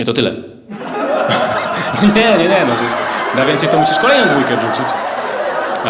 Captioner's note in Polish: śmieje się